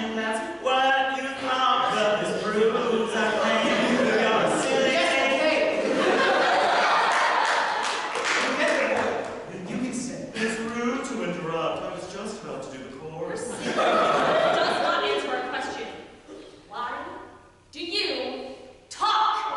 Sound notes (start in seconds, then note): 5.4 audience laughter; 13.4 audience laughter